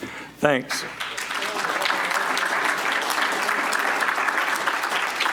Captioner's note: audience applauds